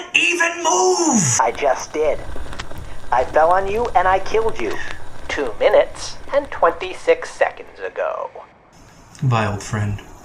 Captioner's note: scratchy robot voice